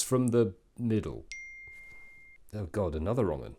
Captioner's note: ping